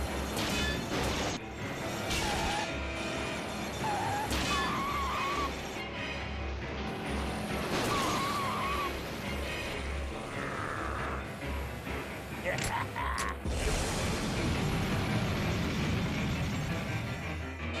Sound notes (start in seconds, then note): 3.8 tires screeching; 12.5 snickering